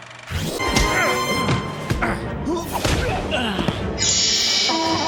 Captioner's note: grunting